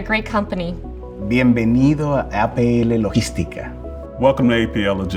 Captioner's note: man speaking in foreign language